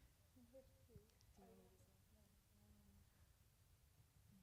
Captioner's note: panelists chattering